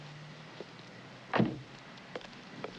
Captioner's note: door closes